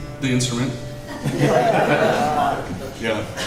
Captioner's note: laughter